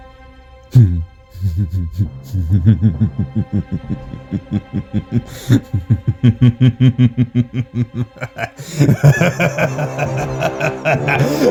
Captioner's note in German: langes und immer lauter werdendes Lachen